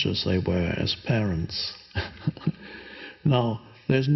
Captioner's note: chuckles